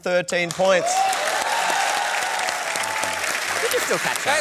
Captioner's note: cheering and applause